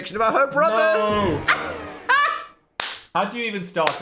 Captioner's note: laughs